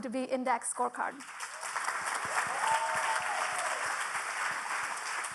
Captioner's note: audience applauding